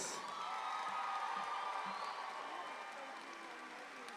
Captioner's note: audience applauds